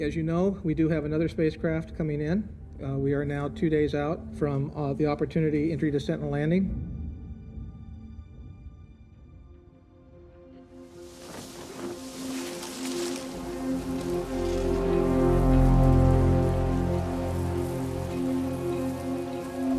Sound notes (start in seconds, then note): 12.2 soft music; 15.2 wind whoshing